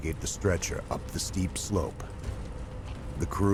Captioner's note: voiceover